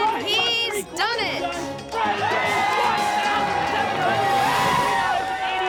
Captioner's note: crowd cheering